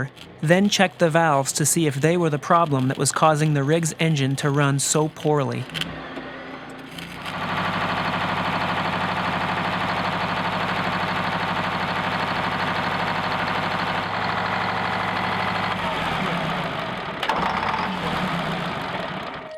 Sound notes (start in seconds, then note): 7.4 engine running, valves clacking; 16.0 engine shuts down